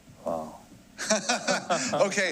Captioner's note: laughs